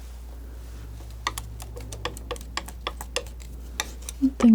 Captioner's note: scratching